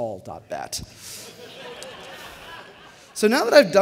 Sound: laughter

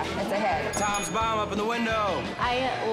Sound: bell dinging

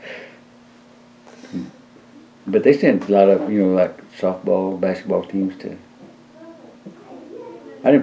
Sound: laughs

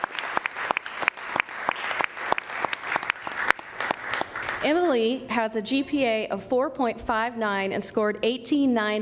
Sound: applause

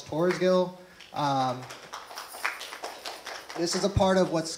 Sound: clapping

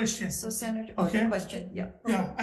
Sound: murmurs

